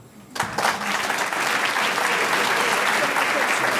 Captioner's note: audience clapping